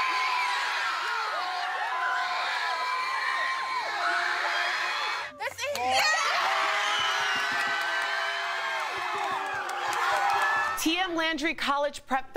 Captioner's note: cheering